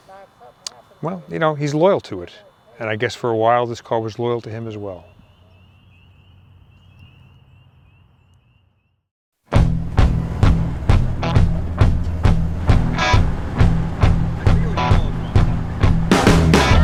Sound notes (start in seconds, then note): 6.5 crickets chirping; 9.5 bluesy rock music